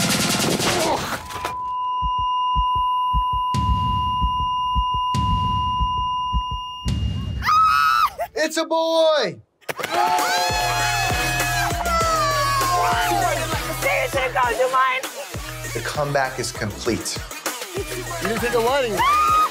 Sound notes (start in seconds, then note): 7.6 woman laughing; 9.7 people cheering; 17.5 upbeat music